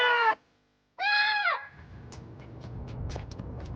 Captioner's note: Jack shouts